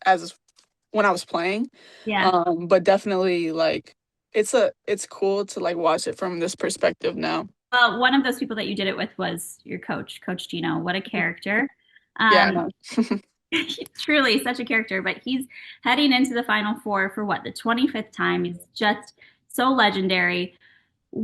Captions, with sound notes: as when I was playing. - Yeah. - But definitely, it's cool to watch it from this perspective now. - Well, one of those people that you did it with was your coach, Coach Geno. What a character. - Yeah, I know. (laughs) Truly such a character, but he's heading into the Final Four for, what, the 25th time? He is just so legendary.